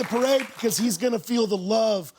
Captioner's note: applause